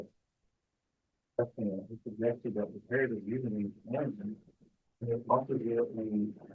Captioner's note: presenter speaking faintly off mic